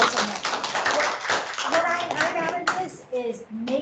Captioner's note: clapping